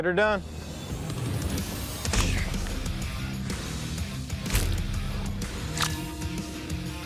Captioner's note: impact sounds